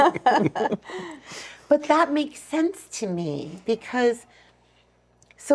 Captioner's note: laughing